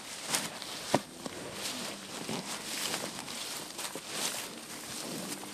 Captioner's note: sound of cows grazing